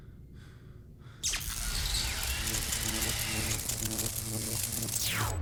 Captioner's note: electricity crackling